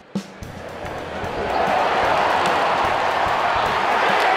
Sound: crowd cheering

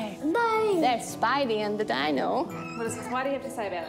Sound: squeals

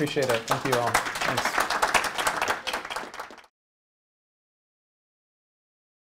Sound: audience clapping

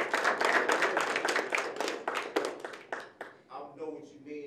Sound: applause

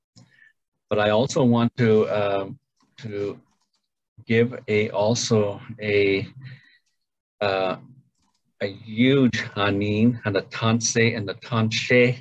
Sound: speaks Ojibwe

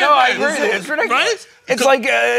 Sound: none

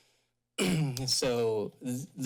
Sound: clears throat

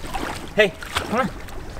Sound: splashing

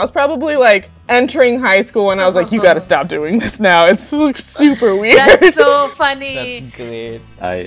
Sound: laughter

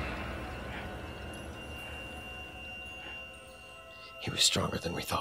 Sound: heavy breathing

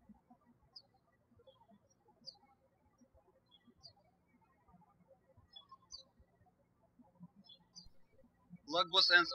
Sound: birds chirping

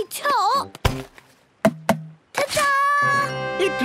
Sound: tapping

